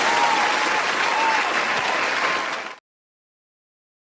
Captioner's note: audience Cheering